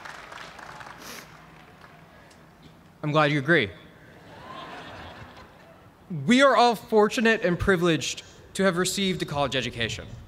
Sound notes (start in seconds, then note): 4.2 laughter